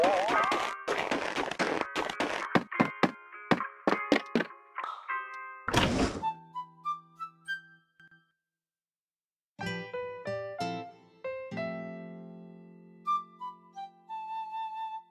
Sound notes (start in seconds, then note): 5.7 camper door opens